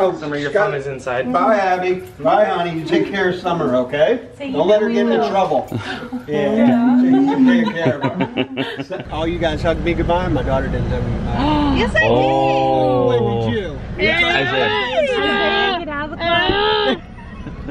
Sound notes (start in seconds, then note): 5.6 laughing